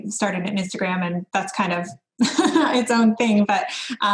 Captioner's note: laughs